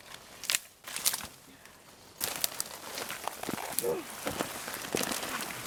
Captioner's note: tree destruction noises